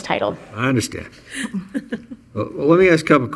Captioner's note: chuckling